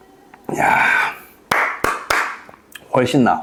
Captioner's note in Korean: 박수